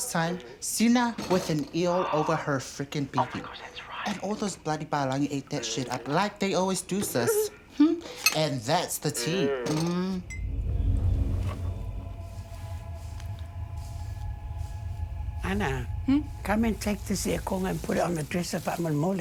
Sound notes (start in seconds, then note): 7.1 giggles; 11.4 eerie music